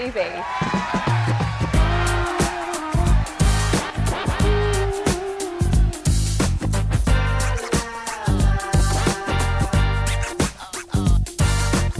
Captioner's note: applause